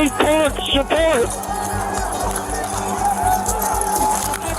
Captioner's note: shouting